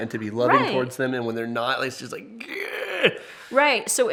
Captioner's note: groans